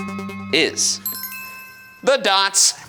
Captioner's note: bells chime